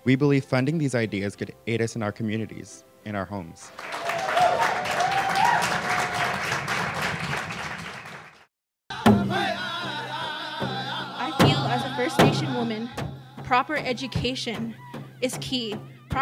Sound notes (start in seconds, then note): 3.7 audience applauds; 8.9 tribal music